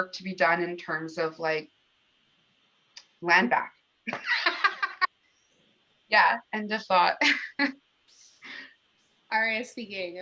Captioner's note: laughter